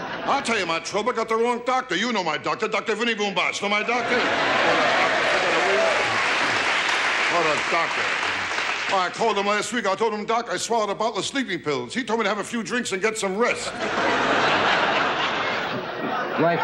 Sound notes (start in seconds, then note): 0.0 audience laughing; 3.8 audience cheering; 13.4 audience laughing